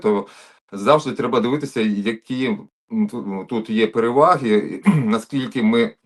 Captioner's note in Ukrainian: прочищення горла